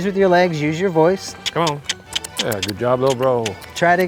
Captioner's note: clicking his tongue